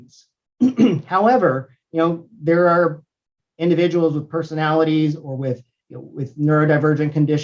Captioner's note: cough